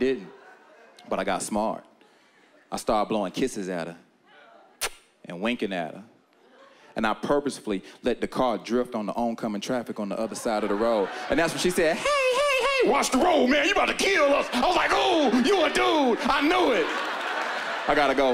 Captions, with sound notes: And I didn't. But I got smart. I started blowing kisses at her. (kiss) And winking at her. And I purposefully let the car drift onto oncoming traffic on the other side of the road, and that's when she said, (feminine voice to masculine) "Hey, hey, hey! Watch the road, man! you about to kill us!" I was like, "Ooh, you a dude! I knew it!"